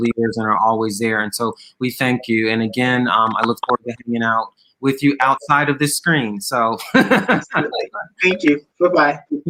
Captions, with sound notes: that are always there. And so we thank you. And again, I look forward with you outside of this screen, so (laughs) - Thank you, goodbye.